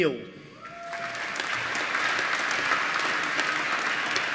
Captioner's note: applause